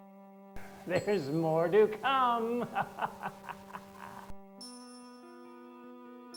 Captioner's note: laughs